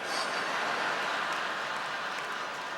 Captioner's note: laughter